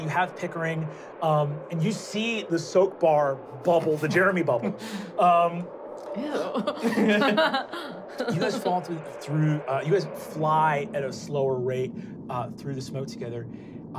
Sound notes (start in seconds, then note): 6.3 laughing